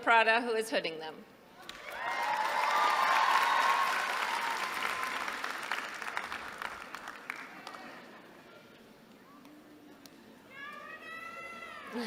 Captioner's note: applause